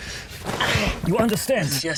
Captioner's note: Robert grunting